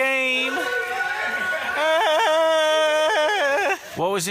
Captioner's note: yell in excitement